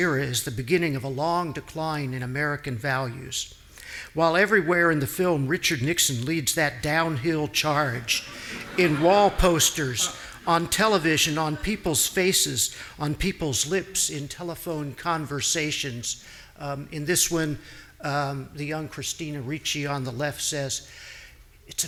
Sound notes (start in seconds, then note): 8.1 audience laughing